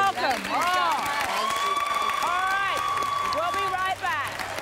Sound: audience clapping

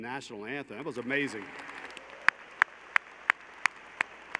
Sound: applause

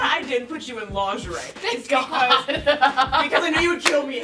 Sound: laughs

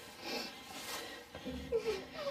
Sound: heavy breathing; rustling sound; sniffing sound

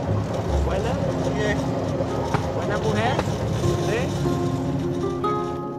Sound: speaking in foreign language

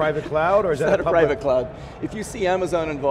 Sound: laughing

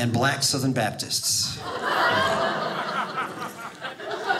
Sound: audience laughing

